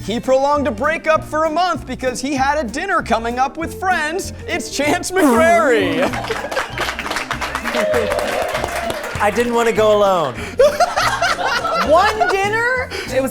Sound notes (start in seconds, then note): 5.6 everyone clapping; 10.6 laughing